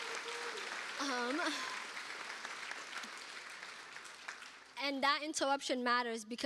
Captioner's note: cheers and applause